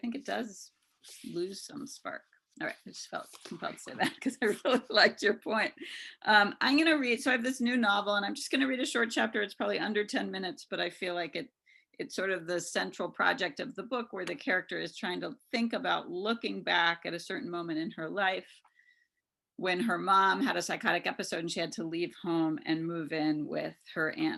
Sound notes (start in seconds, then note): 4.0 chuckles